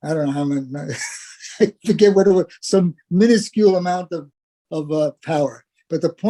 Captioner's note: laugh